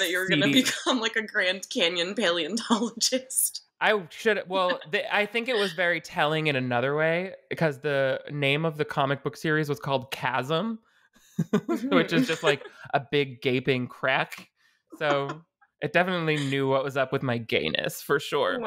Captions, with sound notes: that you were gonna become like a Grand Canyon paleontologist. - I should. Well, I think it was very telling in another way, because the name of the comic book series was called "Chasm," (both laughing) which is just like a big gaping crack. So it definitely knew what was up with my gayness for sure.